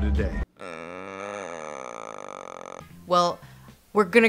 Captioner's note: Lindsay groans